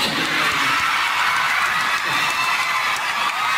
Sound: crowd

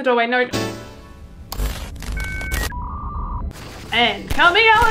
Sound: Windows 95 error sound; computer glitch; dial up connection

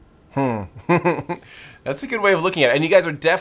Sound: chuckles

